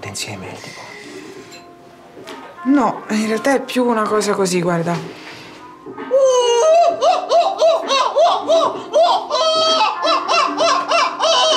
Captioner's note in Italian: Verso di gabbiano